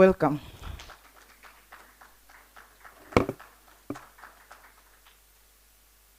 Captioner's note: applause